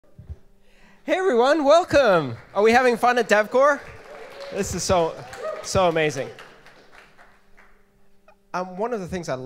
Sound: applause

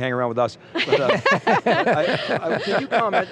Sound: laughing

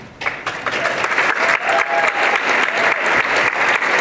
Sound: applause and cheering

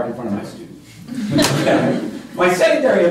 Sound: laughter

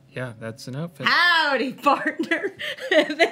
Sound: laughter

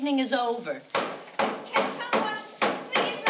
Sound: knocking

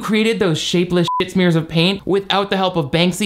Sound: beep

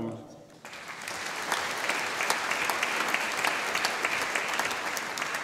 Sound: audience applauding

